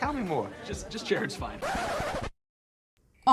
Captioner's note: record scratch